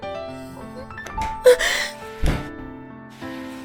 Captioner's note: gasps